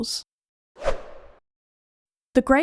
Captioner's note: whoosh Sound